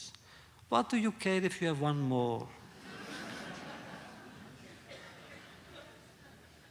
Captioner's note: laughter